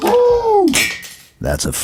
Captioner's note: sound of plastic toy hitting floor